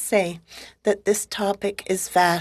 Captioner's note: speaking French